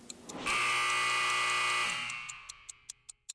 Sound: buzzer sounds

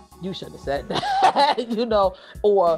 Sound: laughs

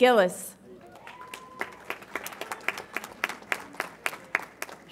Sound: audience applauds

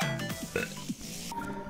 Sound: burp

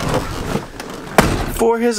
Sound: door slamming

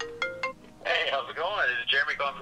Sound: phone ringing

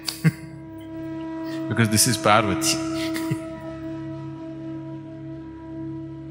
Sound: laughs

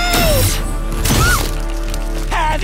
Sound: screams

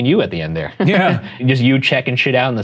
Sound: laughing

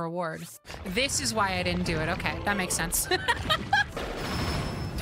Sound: laughter

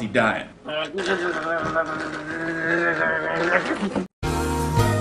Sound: eating

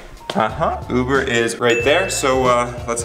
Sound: dings

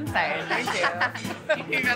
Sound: laughs

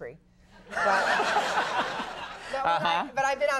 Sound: audience laughing

